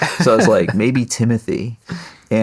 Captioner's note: laughing